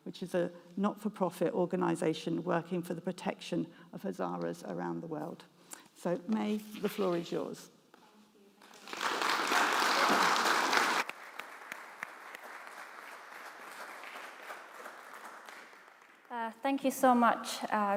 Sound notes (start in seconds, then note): 8.6 audience claps